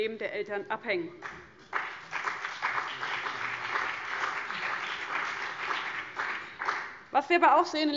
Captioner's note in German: Beifall CDU und BÜNDNIS 90/DIE GRÜNEN